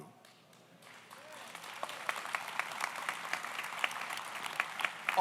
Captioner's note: audience applauds